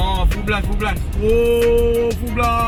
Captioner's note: switching full blast air conditioner